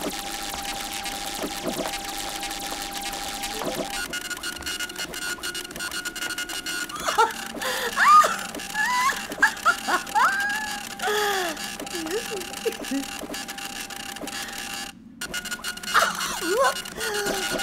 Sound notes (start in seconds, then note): 0.1 scratching noise; 7.5 squeals